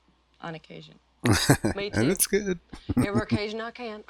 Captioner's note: chuckling